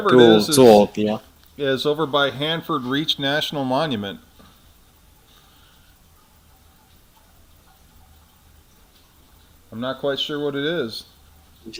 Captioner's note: non-english speech